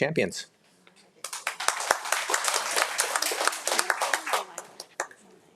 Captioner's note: audience applauding